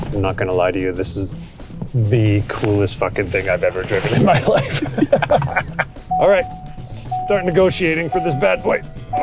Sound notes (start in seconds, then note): 4.2 laughter